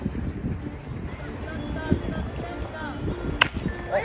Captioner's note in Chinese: 小朋友場邊音